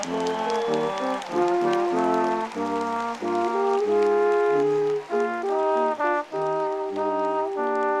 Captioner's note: audience applauding